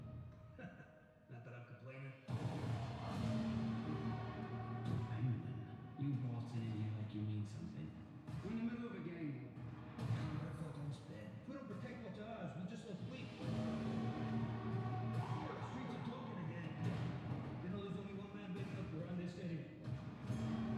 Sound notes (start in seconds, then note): 0.5 chuckles; 2.2 gunfire; 13.4 sirens wail; 13.8 train horn blares